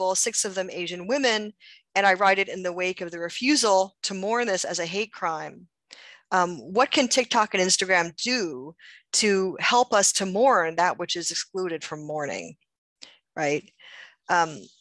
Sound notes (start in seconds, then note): none